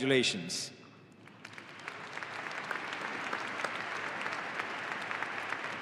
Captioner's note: audience applauding